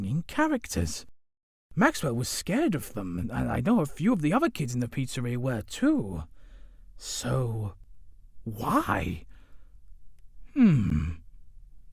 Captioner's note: chuckles